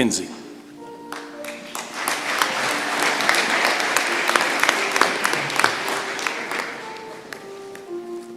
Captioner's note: applause